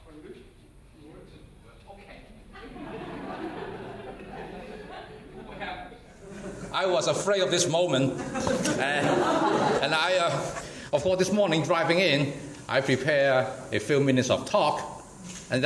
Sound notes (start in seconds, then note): 2.5 audience laughs